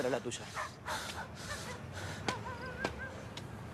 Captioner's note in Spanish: Ricardo respira agitado